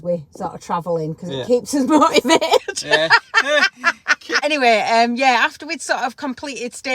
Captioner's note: laughing